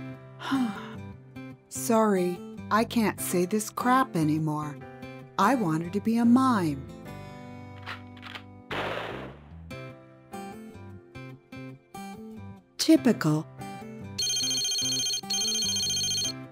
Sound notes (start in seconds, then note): 0.4 sigh; 8.7 bang!